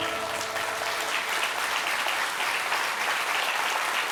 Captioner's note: applause